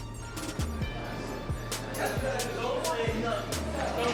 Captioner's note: inmates chattering indistinctly